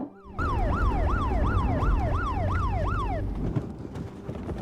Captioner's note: hammer thuds; siren wailing